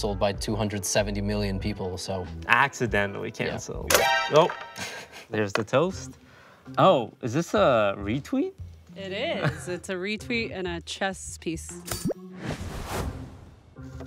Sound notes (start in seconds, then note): 3.8 toaster pops; 4.8 giggles; 12.0 light playful intro music